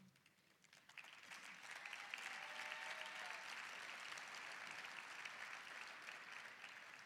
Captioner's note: applause, cheering